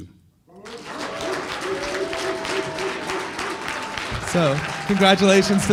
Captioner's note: applause and cheering